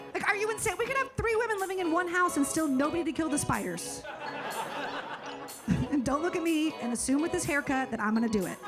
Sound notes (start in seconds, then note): 4.0 audience laughing